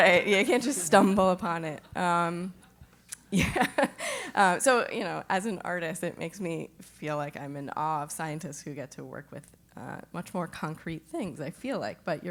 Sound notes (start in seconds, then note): 3.4 laugh